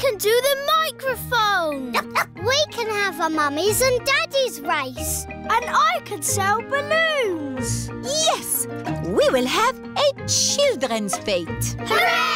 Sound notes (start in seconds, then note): 2.0 barks